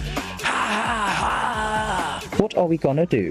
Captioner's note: narrator laughing